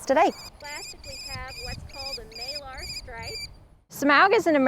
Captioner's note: bird sounds